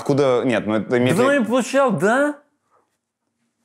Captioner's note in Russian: с пьяной манерой